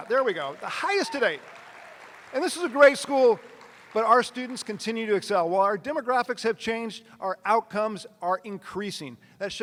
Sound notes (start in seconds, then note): 0.0 attendees cheering; 0.0 attendees applauding